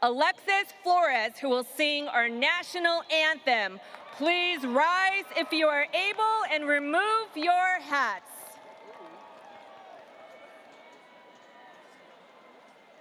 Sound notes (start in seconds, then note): 8.4 audience applauding